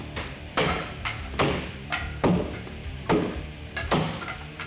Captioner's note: rock music; wood clattering